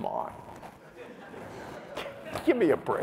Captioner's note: laughter